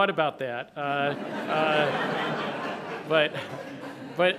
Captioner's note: laughter